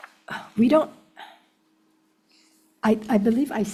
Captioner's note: sighs